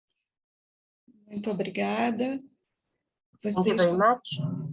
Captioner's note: speaking in foreign language